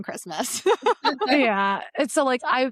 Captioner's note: laughing